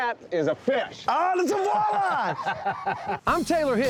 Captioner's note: laughing